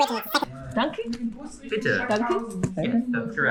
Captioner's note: German